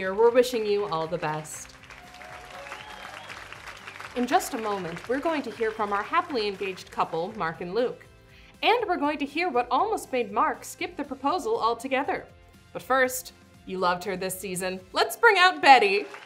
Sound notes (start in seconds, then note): 0.3 audience cheers and applauds